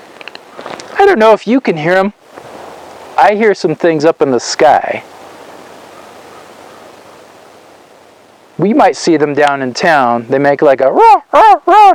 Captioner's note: cawing in the distance